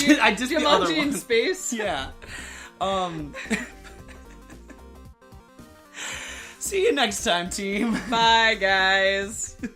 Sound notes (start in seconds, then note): 0.5 laughing; 3.2 both laughing